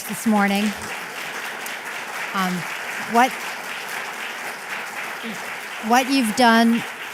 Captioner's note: applause